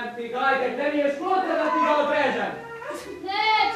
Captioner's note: child crying